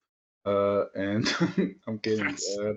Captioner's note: laughs